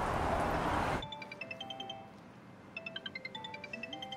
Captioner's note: traffic whooshing; phone ringing